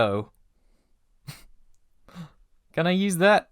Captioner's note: breathy laugh